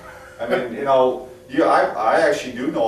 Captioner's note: chuckles